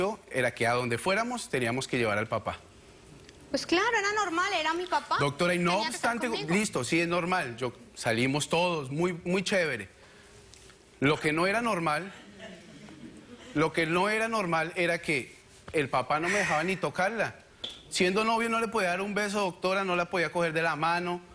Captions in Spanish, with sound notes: PERO LO QUE NUNCA ME PARECIO ES QUE, ADONDE FUERAMOS, TENIAMOS QUE LLEVAR AL PAPA. - PUES CLARO, ERA NORMAL, ERA MI PAPA. - NO OBSTANTE... LISTO, SI ES NORMAL, SALIMOS TODOS, MUY CHEVERE. LO QUE NO ERA NORMAL... [Risas] LO QUE NO ERA NORMAL ERA QUE EL PAPA NO ME DEJABA NI TOCARLA. SIENDO NOVIOS, NO LE PODIA DAR UN BESO, DOCTORA,